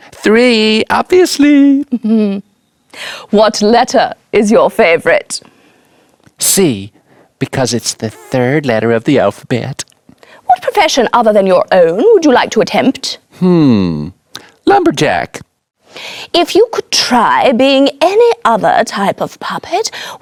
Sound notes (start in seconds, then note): 2.8 chuckles